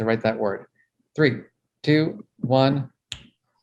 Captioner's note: snaps